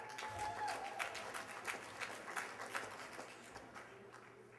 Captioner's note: applause